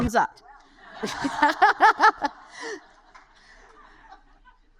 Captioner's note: laughs